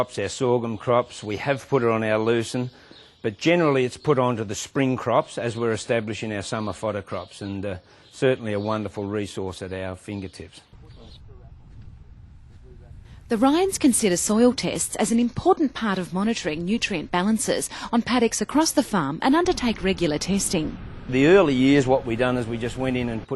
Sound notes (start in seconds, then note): 11.0 birds chirping in background